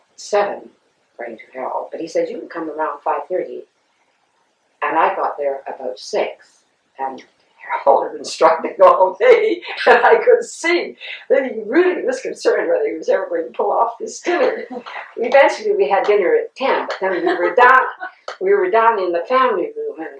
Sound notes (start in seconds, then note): 17.0 laughter